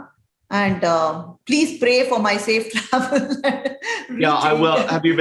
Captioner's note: chuckles